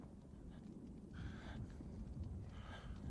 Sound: breathing heavily

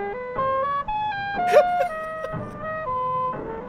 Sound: laughs

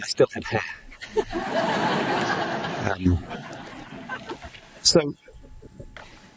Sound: audience laughing

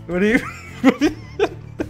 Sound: laughing

